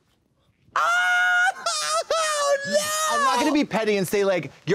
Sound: Trixie caterwauls

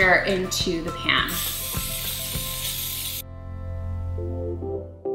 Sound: can hissing

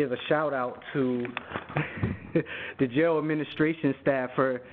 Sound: chuckles

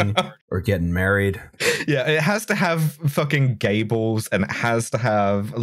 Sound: laughter

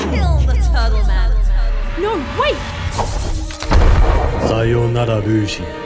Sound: music abruptly ends; Linda's voice echoes in Lucy's head

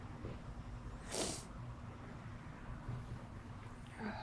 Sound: sniffling

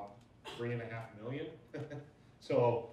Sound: laughs

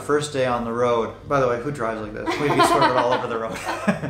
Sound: laughs

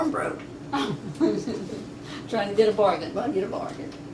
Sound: laughs

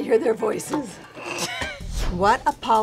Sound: sighs; laughs

